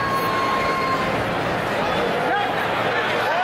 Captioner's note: crowd yelling